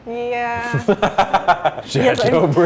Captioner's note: laughing